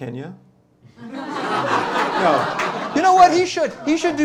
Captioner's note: laughter